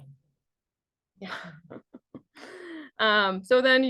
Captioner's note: chuckles